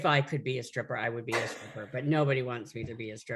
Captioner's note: laughs